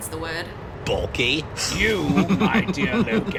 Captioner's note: chuckles